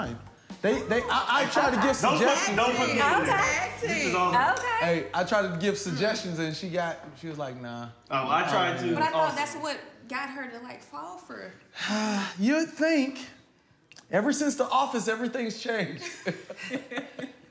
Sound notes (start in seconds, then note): 11.8 sighs; 16.0 laughter